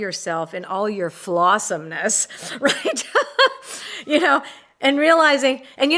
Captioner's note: laughs